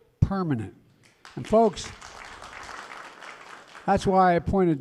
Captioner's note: applause